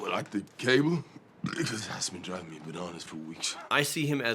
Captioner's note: burps